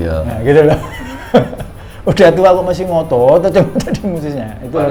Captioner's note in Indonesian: tertawa